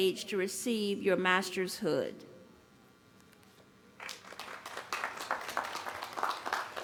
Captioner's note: applause